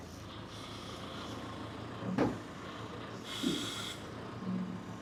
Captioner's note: machine engine whirring